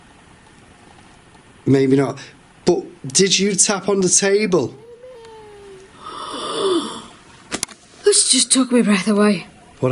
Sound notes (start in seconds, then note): 4.7 woman moaning; 7.0 gasps